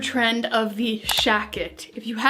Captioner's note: clicking